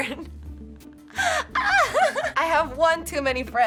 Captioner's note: laughs